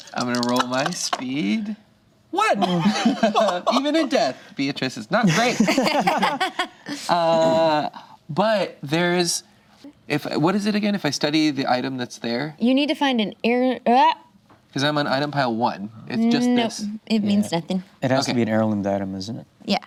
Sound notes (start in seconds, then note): 2.6 group laughs; 5.2 group laughs